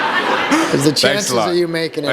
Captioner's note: laughter